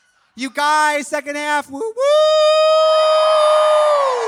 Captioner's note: cheers; audience cheering